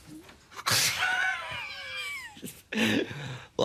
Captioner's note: feigns a chuckle